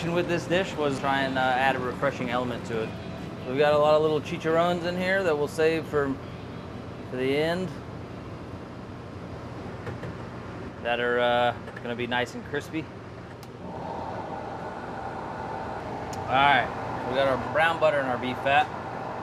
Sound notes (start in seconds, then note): 13.6 blender blending